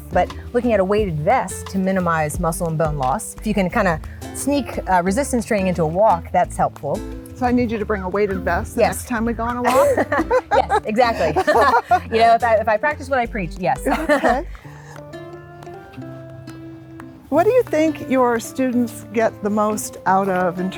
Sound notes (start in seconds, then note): 9.6 both laughing; 15.4 soft music